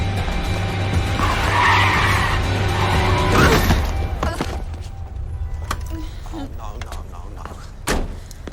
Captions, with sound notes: ( brakes screeching ) OH, NO NO NO NO.